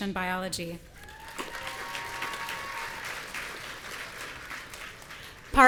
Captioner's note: audience cheering